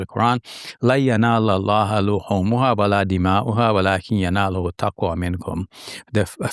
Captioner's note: speaking in foreign language